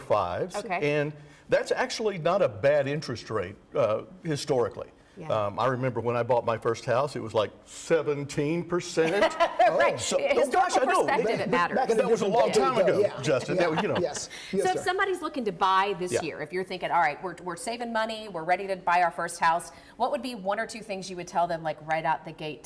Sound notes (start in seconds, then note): 13.2 laughter